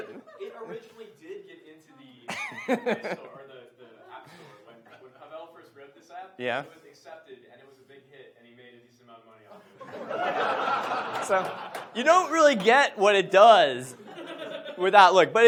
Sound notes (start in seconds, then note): 9.8 audience laughs